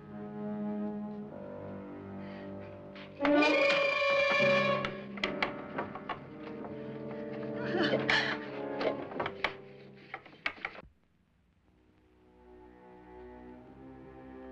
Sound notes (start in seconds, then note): 0.0 suspenseful music; 7.2 whimpering; 12.2 ominous music